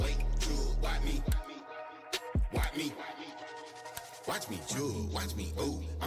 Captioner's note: mouse clicks